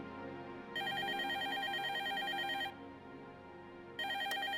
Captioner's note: telephone ringing